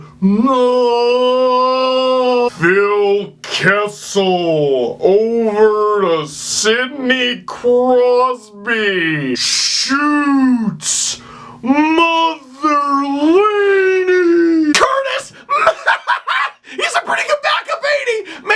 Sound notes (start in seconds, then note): 0.7 slowed voice; 7.3 slowed voice; 13.1 slowed voice; 15.4 laughs